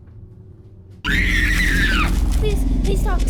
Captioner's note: victim screams